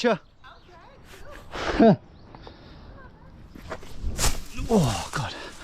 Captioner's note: laughs